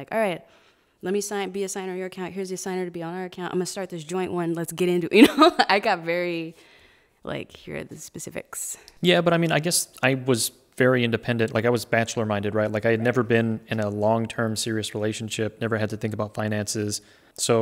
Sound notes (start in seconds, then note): 5.9 laughing